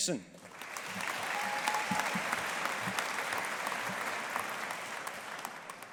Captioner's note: audience applauding